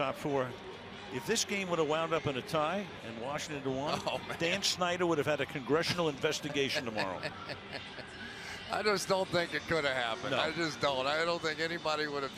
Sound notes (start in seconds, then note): 6.4 laughs